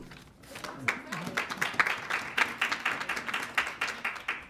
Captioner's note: audience clapping